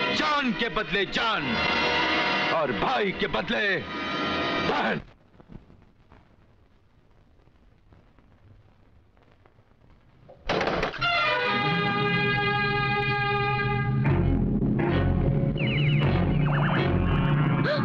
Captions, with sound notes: ...life against life and sister against brother. (Door knocks)